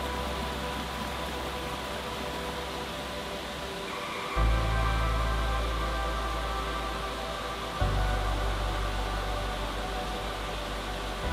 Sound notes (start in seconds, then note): 4.2 water rushing